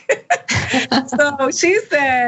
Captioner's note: laugh